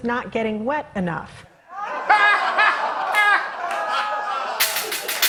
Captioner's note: laughter